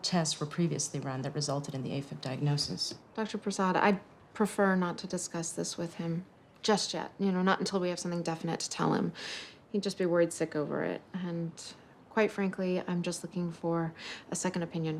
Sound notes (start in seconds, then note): none